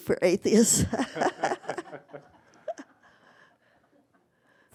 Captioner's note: laughter